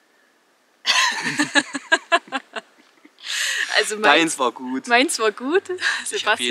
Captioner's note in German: Lachen